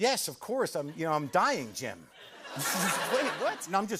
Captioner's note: laughter